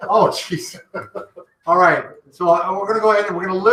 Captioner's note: laughing